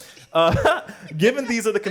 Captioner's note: laughter